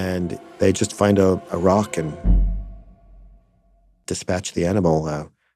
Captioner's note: none